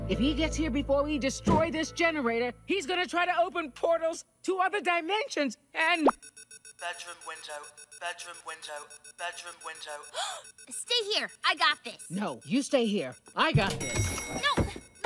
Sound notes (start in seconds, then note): 6.5 alarm beeping; 10.1 gasps; 13.4 elevator dings